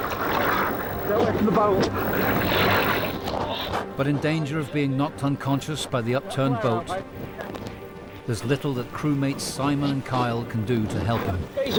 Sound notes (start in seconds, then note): 0.0 water splashing